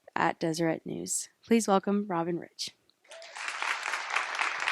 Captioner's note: applause